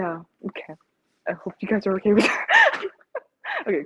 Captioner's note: laughs